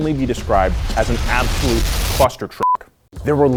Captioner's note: beep